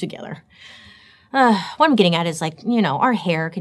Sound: sighs

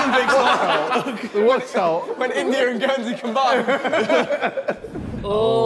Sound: Sidemen laughing and talking indistinctly

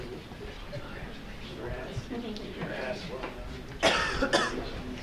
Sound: audience murmuring

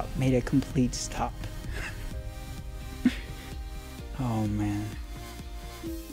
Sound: laughs

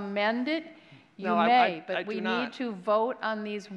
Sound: applause

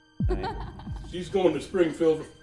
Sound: giggling

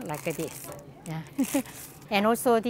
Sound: laughs

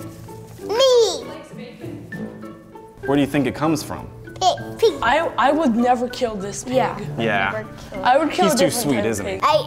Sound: none

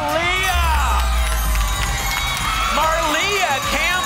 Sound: applause and cheering

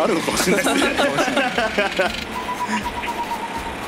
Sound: laughs

